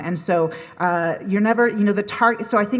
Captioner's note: none